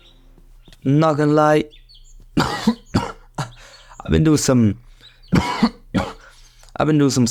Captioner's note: cough